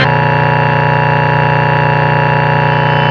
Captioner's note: intense glitching; intense glitching